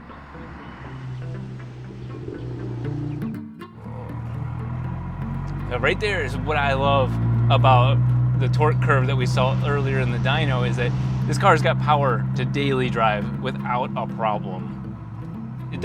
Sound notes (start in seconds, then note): 0.8 motor purring